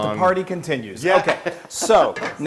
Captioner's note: laugh